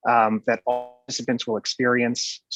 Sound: distorted audio

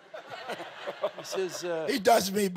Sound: laughs

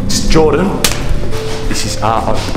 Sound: face slap

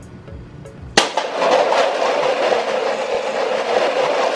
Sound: cups crashing

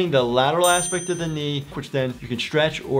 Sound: loud dinging

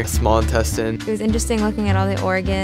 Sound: voiceover

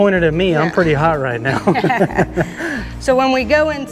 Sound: both laugh

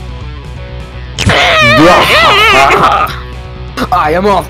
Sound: child cries and goose laughs

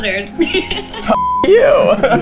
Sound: woman laughs

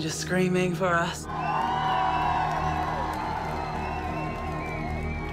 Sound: crowd cheering

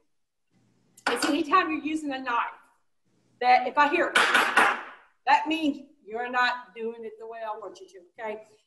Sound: audible knife noise from it hitting table

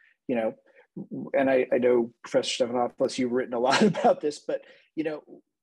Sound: laughter

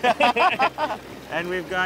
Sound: laughs

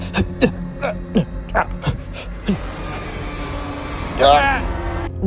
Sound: panicked grunting

